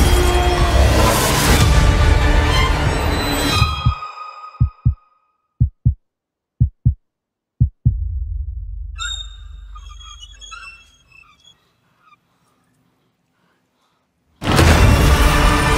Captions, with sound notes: [heart beats] [creaking] IF THEY HEAR YOU